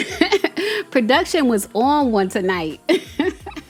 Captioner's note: laughs